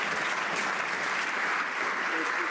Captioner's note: some Applause